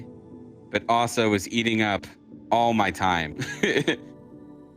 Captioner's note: laughs